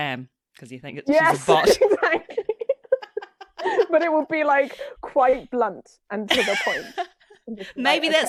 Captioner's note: laughs